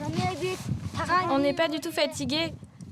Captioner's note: foreign language spoken